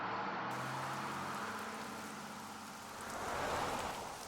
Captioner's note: bus whooshing; rain pattering; car whooshing